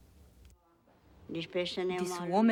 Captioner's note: non-english speech